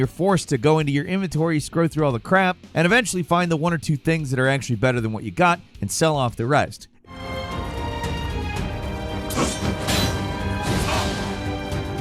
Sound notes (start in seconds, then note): 8.0 gameplay playing